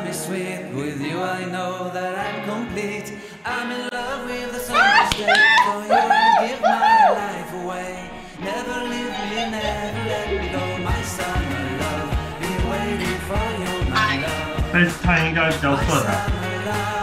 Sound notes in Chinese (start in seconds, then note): 4.6 學妹歡呼聲; 8.4 學妹巫婆笑聲